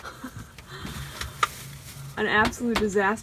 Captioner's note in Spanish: riendo